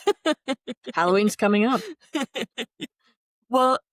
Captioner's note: laughter; laughter